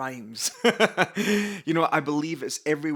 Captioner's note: laughs